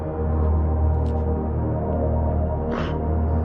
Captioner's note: cryining